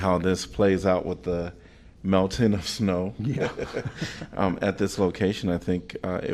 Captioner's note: laughter